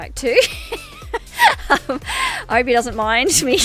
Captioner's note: laughs hysterically